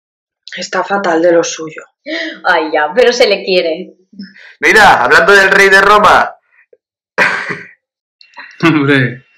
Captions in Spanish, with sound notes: Está fatal de lo suyo... ¡Ay, ya...! Pero se lo quiere. ¡Mira! ¡Hablando del rey de Roma! (risa) ¡Hombre!